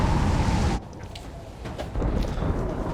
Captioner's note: thunder rumbling